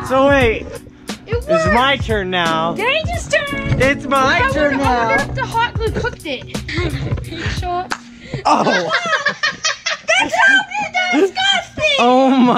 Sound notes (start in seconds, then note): 8.1 egg splatting